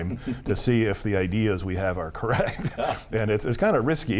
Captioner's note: laughs